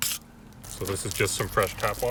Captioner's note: water splashing